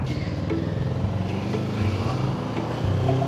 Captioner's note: engine revving